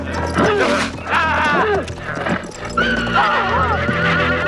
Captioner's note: man growling